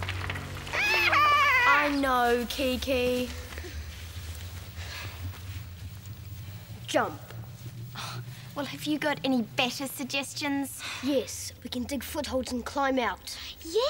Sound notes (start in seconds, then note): 0.7 squawks